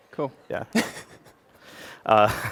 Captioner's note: laughter